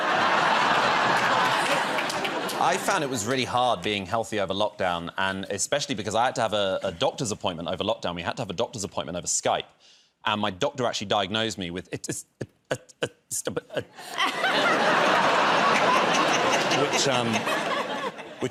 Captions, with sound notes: [ Laughter ] -I found it was really hard being healthy over lockdown, and especially because I had to have a doctor's appointment over lockdown -- we had to have a doctor's appointment over Skype. And my doctor actually diagnosed me with [ Stammering ] [ Laughter ]